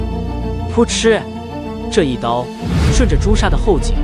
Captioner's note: ตุ๊บ